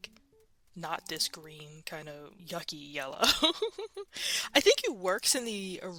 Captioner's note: laughs